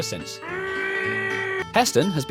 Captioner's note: muffled screams